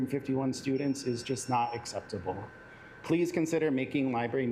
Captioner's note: alarm beeping